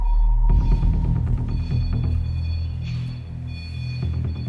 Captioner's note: ominous music; beeping